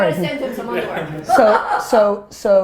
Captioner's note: laughs